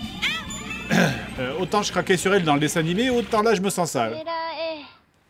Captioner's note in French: raclement de gorge